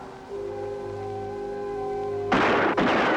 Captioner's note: gunshots